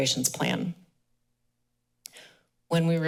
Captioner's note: pause